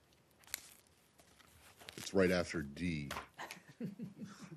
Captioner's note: laughter